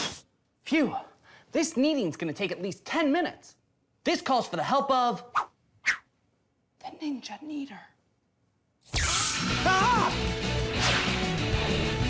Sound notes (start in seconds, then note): 7.3 whispers